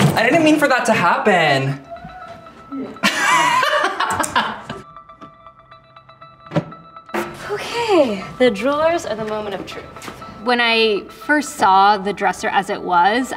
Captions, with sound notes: I didn't mean for that to happen. [laughing] [contemplative music] - Okay. The drawers are the moment of truth. When I first saw the dresser as it was,